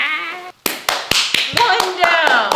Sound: clapping hands

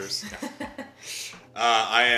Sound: chuckling

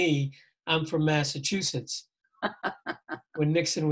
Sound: laughing

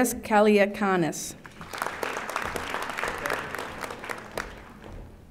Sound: audience applauding

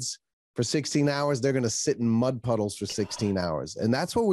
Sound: sighs

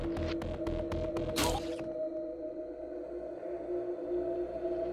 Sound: squelching; slow music

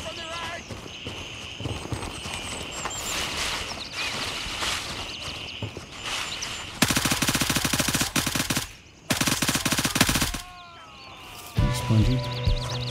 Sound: gunfire

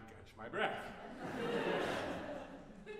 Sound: audience Laughter

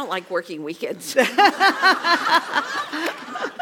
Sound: laugh

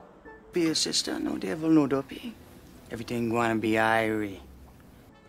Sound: tries speaking Patois

